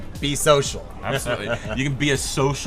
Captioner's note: laughs